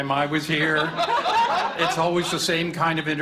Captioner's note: laughter